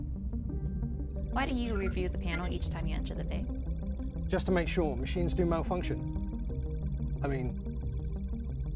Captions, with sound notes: (computer trilling) - Why do you review the panel each time you enter the bay? - Just to make sure. Machines do malfunction. I mean...